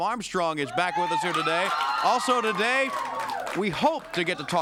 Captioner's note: crowd cheering